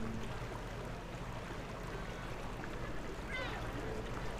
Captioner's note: water sounds and distant chatter